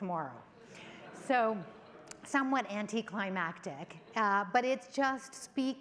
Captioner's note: audience laughs